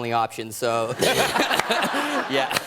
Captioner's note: laughter